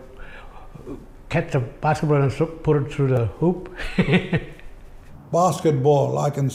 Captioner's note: laughs